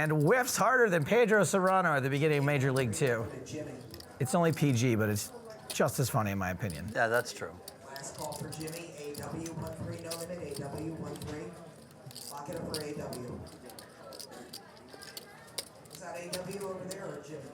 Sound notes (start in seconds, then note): 8.3 poker chips clacking